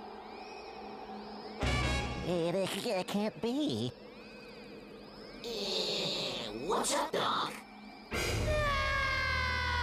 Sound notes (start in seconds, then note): 2.3 stuttering